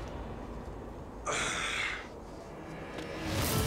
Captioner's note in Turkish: İnleme sesi